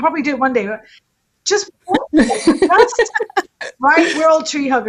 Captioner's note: everyone laughing